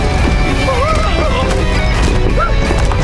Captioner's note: screaming